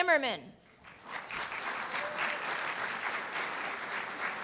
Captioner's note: applause